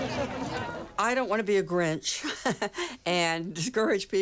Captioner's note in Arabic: يضحك